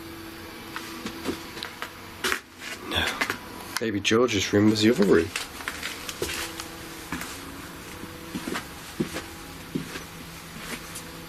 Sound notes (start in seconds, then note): 6.5 footsteps